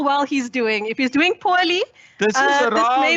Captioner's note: interjects